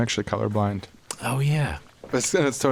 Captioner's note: quietly